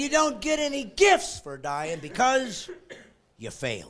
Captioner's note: laughing